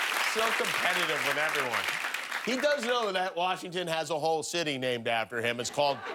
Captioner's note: applause